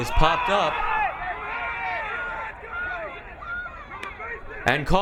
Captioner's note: crowd cheering